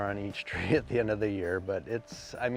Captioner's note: chuckles